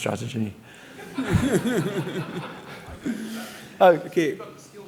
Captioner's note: audience laughing